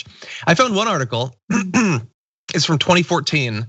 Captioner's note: cough